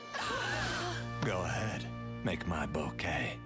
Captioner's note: gasps